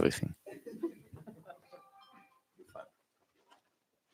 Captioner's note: laughter